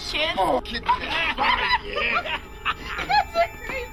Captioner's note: laughter